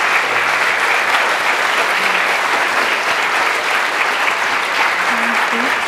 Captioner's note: audience applause